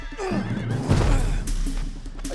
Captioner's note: loud grunt